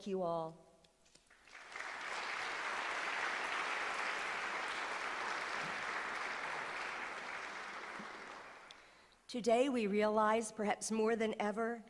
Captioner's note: applause